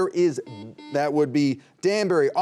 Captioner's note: buzzer beeping